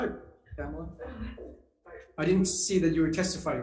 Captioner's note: chuckles